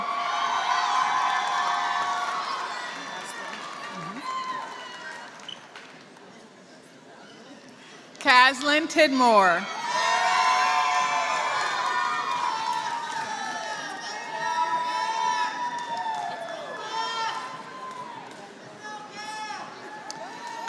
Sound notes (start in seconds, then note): 0.0 applause; 10.2 applause